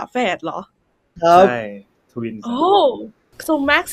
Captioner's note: in Thai